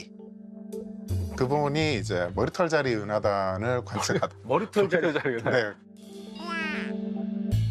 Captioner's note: failed to hold back laughter